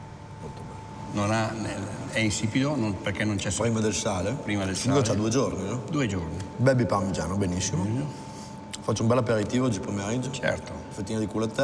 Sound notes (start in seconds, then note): 1.5 man speaks in foreign language; 6.7 speaks in foreign language